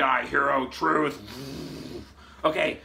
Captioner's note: lips vibrating